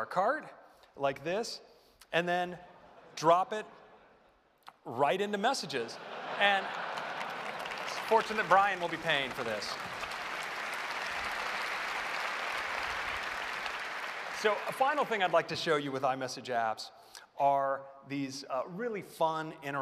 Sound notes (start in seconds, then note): 5.9 laughter; 9.3 applause